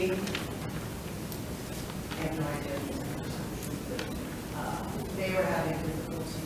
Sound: speaks distantly

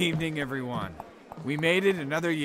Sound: footsteps

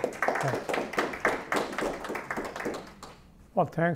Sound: applause

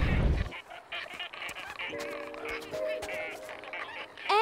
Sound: squeaking

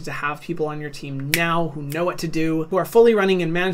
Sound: fingers snapping

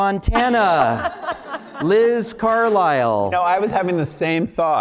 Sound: laugh

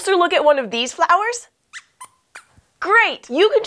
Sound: squeak squeaks

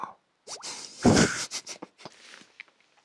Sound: hehehe

